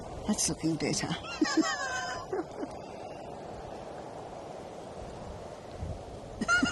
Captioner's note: laughing